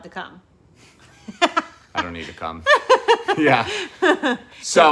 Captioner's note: laughing